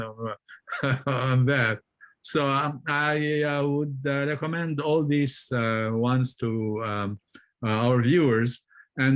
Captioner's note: chuckles